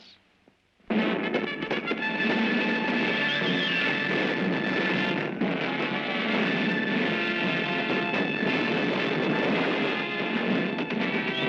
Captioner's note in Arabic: إطلاق نار; موسيقى أوركسترالية درامية